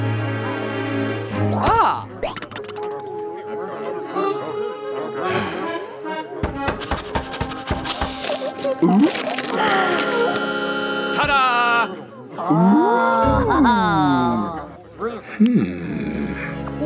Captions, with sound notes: (dramatic music) - Ah! Ta-da! - Ooh! (laughing) - Hmm.